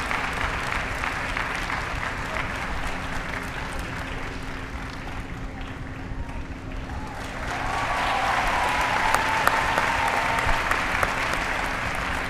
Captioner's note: applause